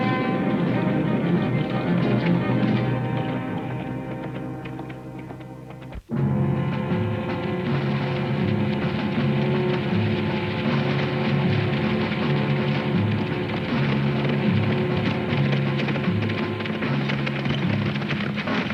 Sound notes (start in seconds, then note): 0.1 dramatic music; 6.1 ominous music; 13.7 hooves thudding